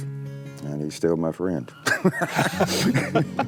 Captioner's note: laughing